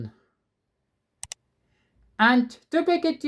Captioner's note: click sound